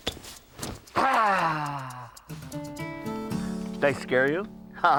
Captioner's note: man growling